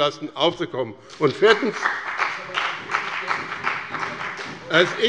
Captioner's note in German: Beifall bei dem BÜNDNIS 90/DIE GRÜNEN und der CDU - Zurufe von der SPD